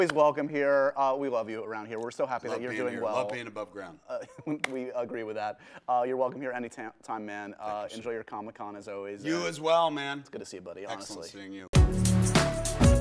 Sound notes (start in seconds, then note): 4.1 chuckles